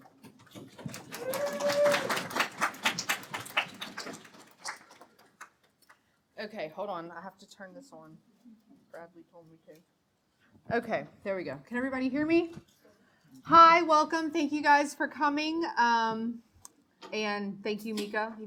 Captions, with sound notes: (audience applauding) - Okay, hold on. I have to turn this on. There we go. Can everybody hear me? Hi, welcome. Thank you guys for coming and thank you, Mika,